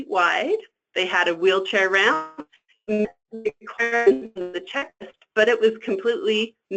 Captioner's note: static